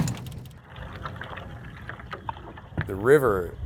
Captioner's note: bag clunking; water trickling